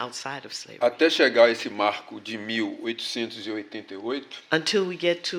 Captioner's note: speaking portuguese